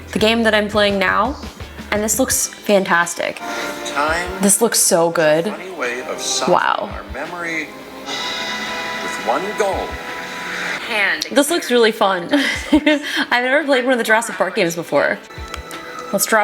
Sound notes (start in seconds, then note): 12.2 laughing